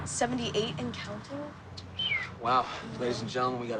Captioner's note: whistles